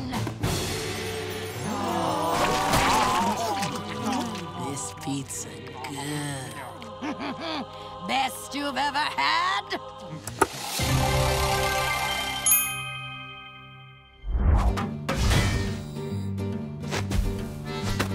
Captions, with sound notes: [gasping] This pizza good. [chuckles] Best you've ever had? [dinging]